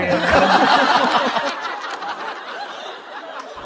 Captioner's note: hahahahahahahaha!